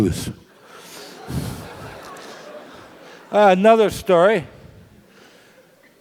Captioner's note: laugh